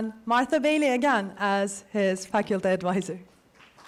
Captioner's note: applause